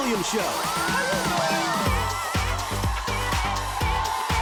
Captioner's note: people cheering; fun exciting music